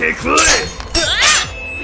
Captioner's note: occasional grunts